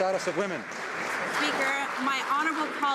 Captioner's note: some Applause